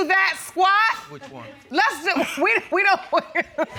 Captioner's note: laughs